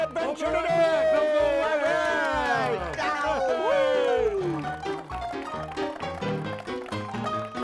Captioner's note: playful music; men exulting